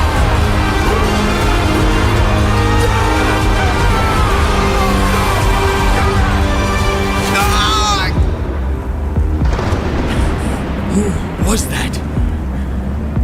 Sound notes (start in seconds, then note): 9.5 THUNDER, Odysseus Gasps